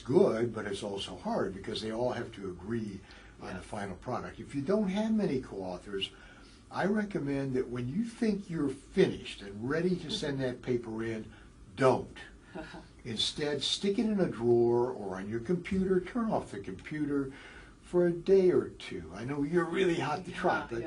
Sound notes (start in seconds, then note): 12.6 laugh